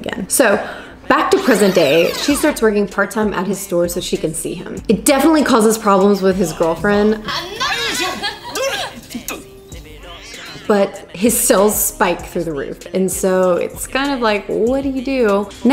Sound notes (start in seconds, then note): 7.0 speaks in foreign language; 10.1 cat growling